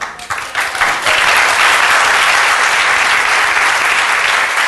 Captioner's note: audience applauding